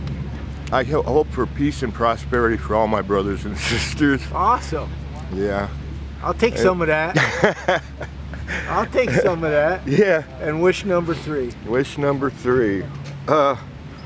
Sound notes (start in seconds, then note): 7.0 laughs